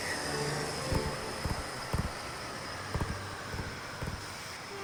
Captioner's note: fingers tap